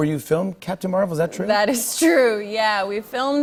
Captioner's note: normal voice